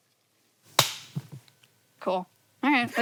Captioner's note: hands clap